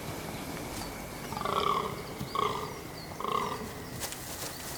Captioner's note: deer grunts